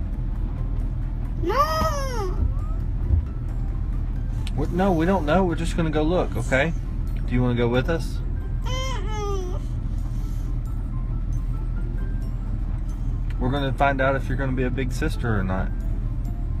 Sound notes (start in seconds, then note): 2.7 cries; 10.1 melodic music